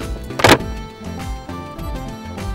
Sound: cupboard door bangs on wall

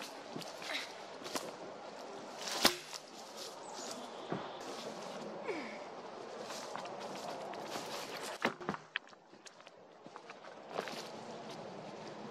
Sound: a big log falling on the ground, footsteps, leaves and branches crackling

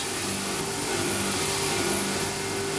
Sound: machine noise

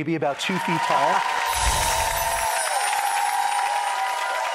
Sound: audience cheering

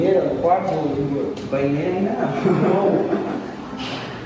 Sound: laughs awkwardly

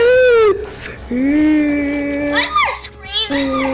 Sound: screaming

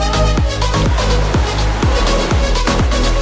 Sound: waves crashing; car engine; water splashing

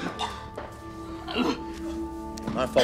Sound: coughs

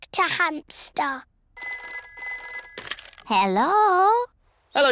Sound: phone rings

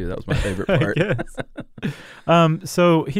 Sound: both laugh

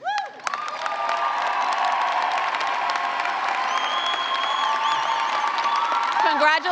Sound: cheers and clapping

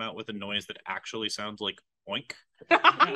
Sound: laughs

